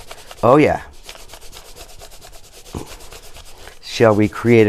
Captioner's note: crayon scratches